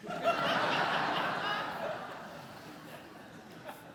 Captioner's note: laughter